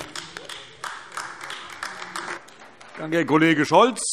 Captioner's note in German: Beifall AfD